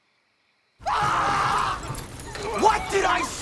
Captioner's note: vampires screaming